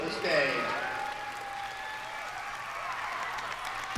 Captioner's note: cheering